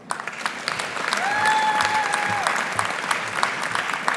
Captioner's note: audience applauding; audience cheering